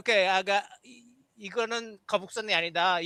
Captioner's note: non-english speech